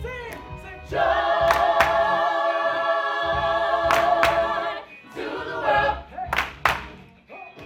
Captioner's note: all clapping hands